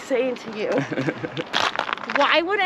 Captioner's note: laughs